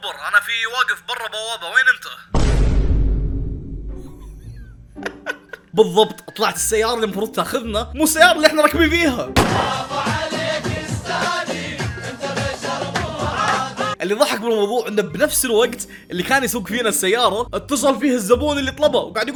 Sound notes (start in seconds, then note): 2.4 dramatic drum; 4.1 chuckles